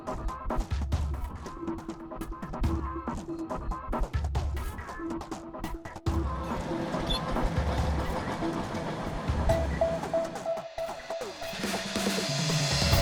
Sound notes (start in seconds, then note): 6.2 machinery operating